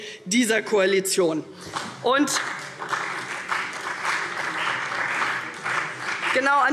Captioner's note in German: Beifall CDU und vereinzelt BÜNDNIS 90/DIE GRÜNEN